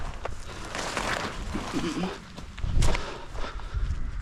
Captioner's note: hedge rustling